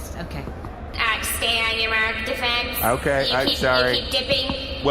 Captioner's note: echoing over a speaker